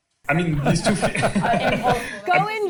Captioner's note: participants laughing